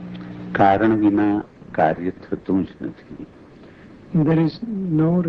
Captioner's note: speaking foreign language